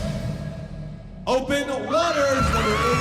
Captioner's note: cheering